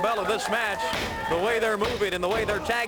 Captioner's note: crowd cheering